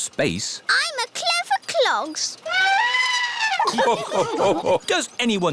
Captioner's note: trumpets; all laugh